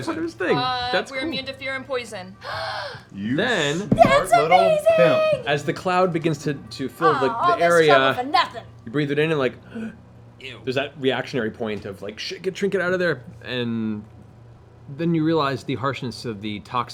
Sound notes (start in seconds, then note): 2.4 gasps